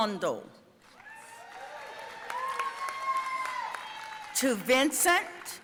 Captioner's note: audience cheering and applauding